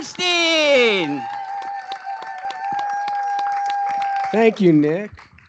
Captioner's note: cheering